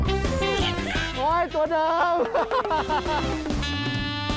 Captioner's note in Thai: เสียงหัวเราะ